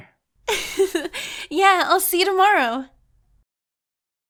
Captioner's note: chuckles; giggles